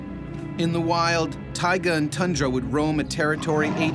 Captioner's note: voiceover